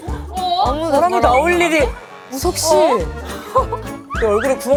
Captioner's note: murmuring in the studio